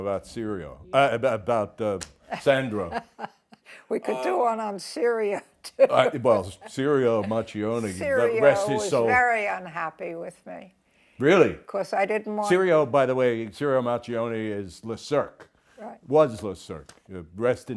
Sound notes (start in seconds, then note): 4.7 laughs